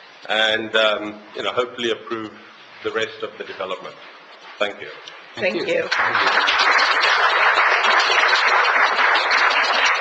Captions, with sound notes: and hopefully approve the rest of the Development. Thank you. - Thank you. (audience applauds)